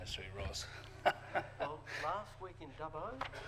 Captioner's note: laughter